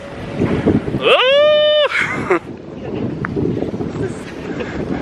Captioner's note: wind blustering